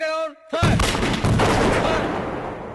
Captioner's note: gun Firing